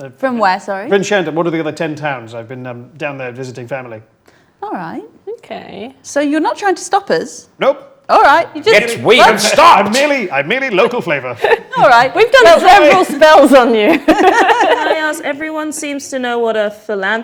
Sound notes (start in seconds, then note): 9.0 overlapping chattering